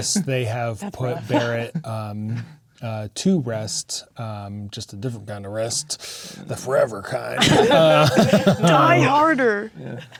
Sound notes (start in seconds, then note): 7.4 players laughing